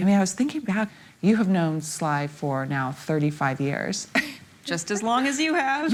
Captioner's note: chuckling